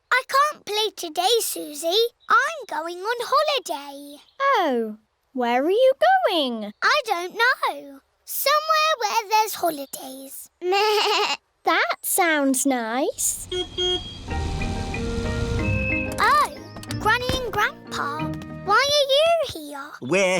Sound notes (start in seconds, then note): 13.4 car horn beeps